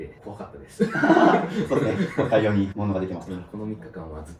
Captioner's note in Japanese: 笑い